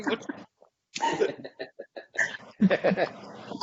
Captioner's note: laughs